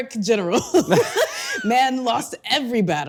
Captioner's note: both laughing